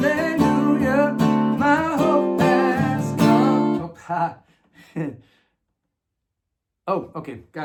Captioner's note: laughing